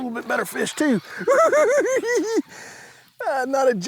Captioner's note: giggling